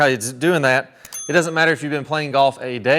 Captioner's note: bell dings